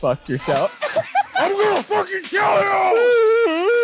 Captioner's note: laughs